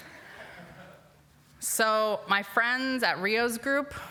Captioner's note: laughter